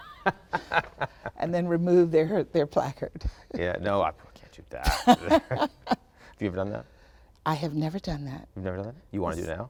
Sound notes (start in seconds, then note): 0.0 Ian laughing; 4.9 both laughing